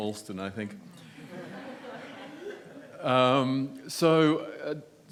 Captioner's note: audience laughs